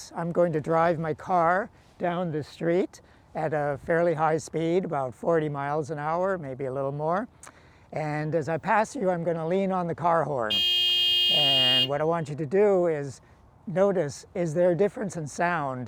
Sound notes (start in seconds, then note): 10.5 car horn beeps